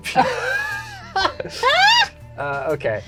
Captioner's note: all laughing